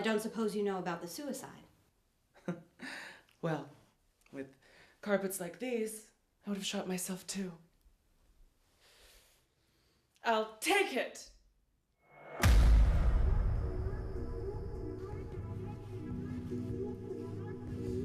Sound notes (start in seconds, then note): 2.6 chuckling; 12.5 ominous spooky music; 15.6 rustling